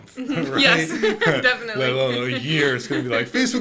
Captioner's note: laughing